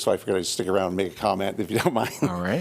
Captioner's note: laughter